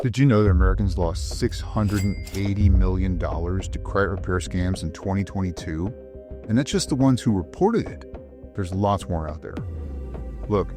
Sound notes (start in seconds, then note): 1.8 register chiming; 9.5 suspenseful music